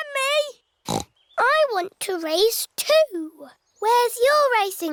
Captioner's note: snorts